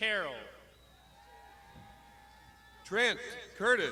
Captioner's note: crowd shouting